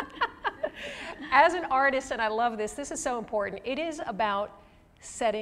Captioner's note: laughter